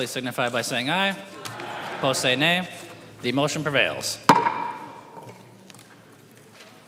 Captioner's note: chorus of ayes